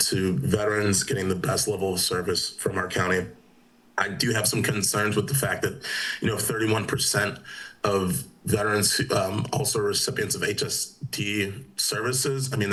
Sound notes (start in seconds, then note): none